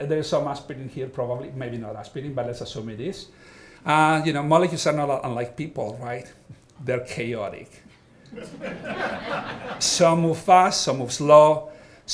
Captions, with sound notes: there's some aspirin here, probably, maybe not aspirin, but let's assume it is, molecules are not unlike people. They're chaotic. (all laughing) Some move fast, some move slow,